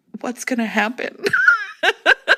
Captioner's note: laughter